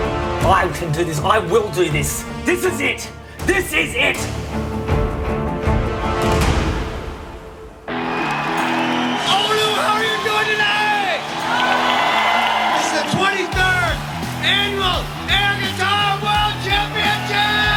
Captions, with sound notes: I can do this, I will do this. This is it, this is it. (upbeat rock music) - Oulu, how are you doing tonight? (crowd cheers and applauds) This is the 23rd Annual Air Guitar World Championships!